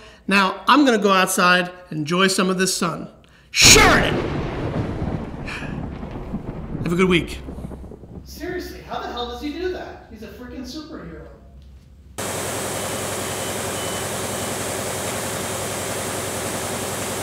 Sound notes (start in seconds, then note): 3.6 thunder claps; 12.2 machine running